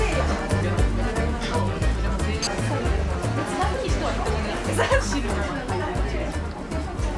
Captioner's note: laughs/crying